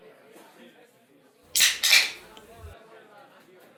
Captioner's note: tab cracks